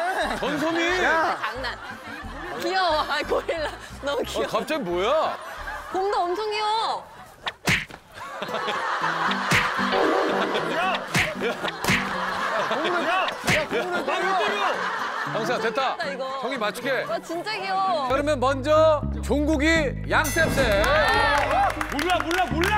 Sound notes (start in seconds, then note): 7.4 slaps